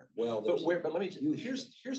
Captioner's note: overlapping chatter